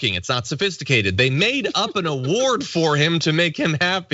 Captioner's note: laugh